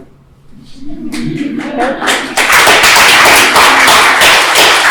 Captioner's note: applause